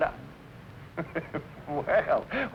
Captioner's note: laughs